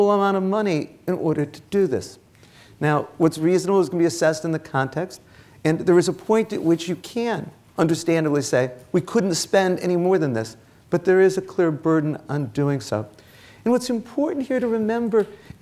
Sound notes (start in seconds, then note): none